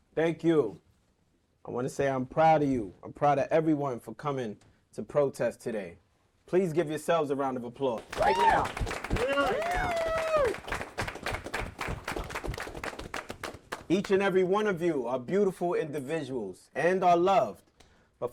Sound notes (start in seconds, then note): 7.9 group clapping